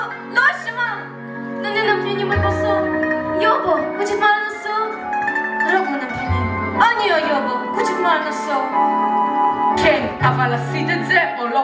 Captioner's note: in Korean